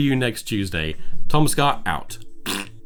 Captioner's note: blows raspberry